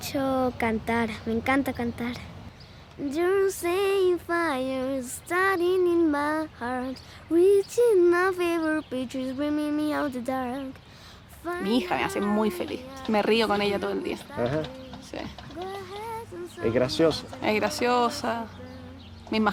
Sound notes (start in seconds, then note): 11.5 speaking in foreign language